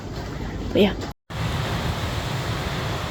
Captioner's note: sounds of heavy rain